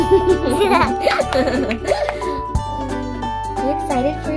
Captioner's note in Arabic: أطفال يضحكون